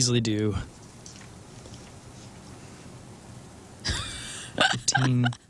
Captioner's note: laughing